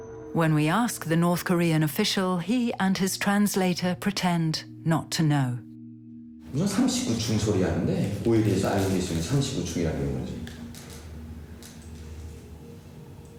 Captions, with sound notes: When we ask the North Korean official, he and his translator pretend not to know. (translator speaking Korean)